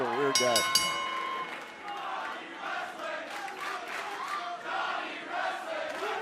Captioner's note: bell ringing; fans chanting